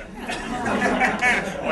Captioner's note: laughter